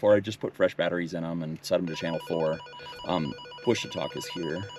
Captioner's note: radio beeps